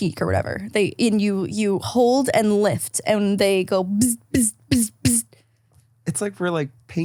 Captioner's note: buzzing